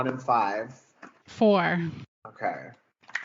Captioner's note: shuffling